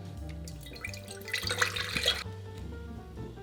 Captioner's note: liquid pouring